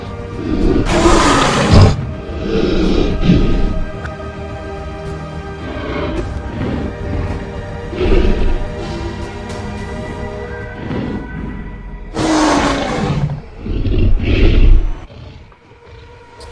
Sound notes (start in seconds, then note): 0.1 roars; 12.4 roars